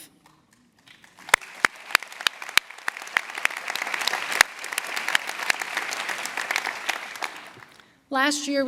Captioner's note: applause